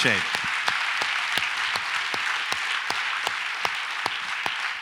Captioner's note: audience applauds